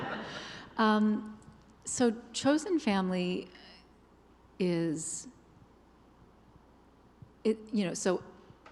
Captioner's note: laughter